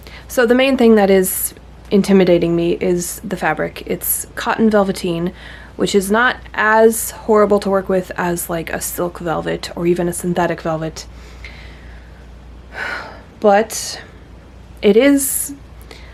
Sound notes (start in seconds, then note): 12.7 sighs